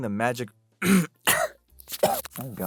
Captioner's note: cough; choke; clears throat